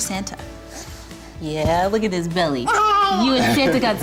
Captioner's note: giggle